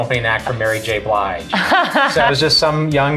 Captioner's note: laughs